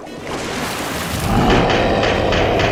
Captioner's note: monster roars